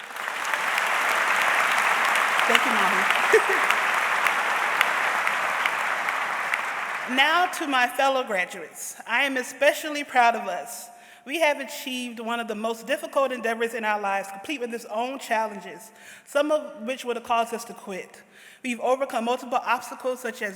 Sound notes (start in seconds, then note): 0.0 audience applauds; 5.8 laughs